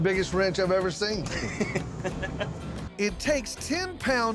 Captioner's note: chuckles